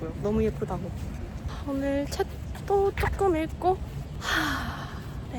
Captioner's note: deep sigh